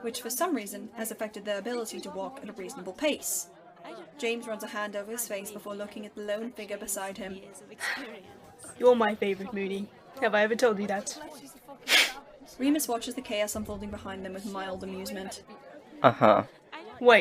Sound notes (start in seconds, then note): 7.6 sighs; 11.8 Remus laughs